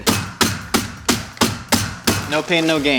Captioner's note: table banging